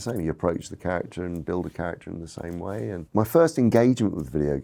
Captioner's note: none